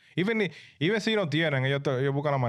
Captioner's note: speaking In Foreign Language